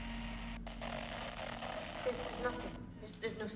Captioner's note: static buzzing